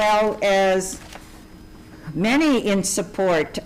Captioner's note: paper rustling